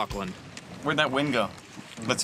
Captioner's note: waves swishing